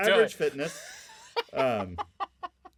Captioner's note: laughing